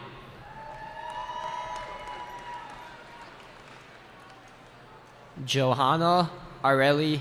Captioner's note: cheering